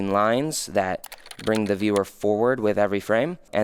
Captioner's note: computer keys clicking